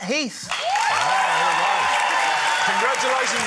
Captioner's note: cheering, applause